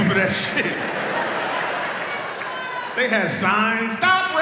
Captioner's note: audience laughs